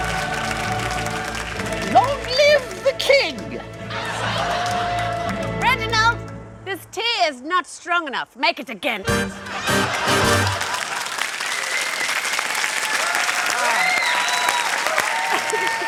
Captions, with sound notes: Long live the King! (LAUGHTER) Reginald! This tea is not strong enough. Make it again! (CHEERING AND APPLAUSE)